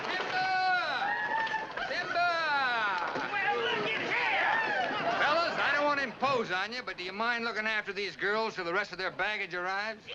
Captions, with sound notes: Timber! Timber! (men murmuring) - Well look at him! - Fellas, I don't wanna impose on you, but do you mind looking after these girls 'til the rest of their baggage arrives?